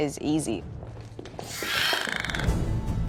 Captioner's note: dragonscreeches